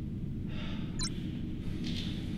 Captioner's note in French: L'ordinateur fait bip